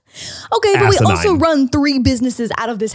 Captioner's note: laughs